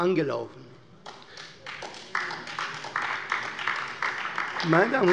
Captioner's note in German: Beifall bei der CDU und dem BÜNDNIS 90/DIE GRÜNEN